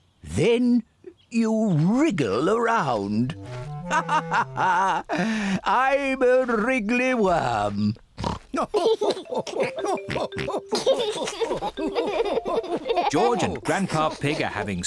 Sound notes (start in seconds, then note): 2.9 laughs; 8.1 snorts; 8.3 laughs; 11.2 both laugh